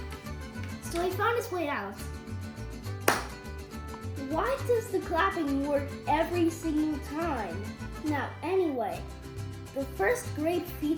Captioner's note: clap